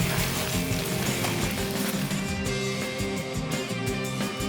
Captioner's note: upbeat music; gravel crunches; upbeat music